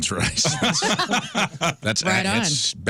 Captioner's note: laughing